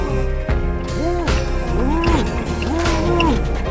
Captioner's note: muffled groaning